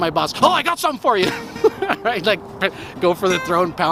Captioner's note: laughing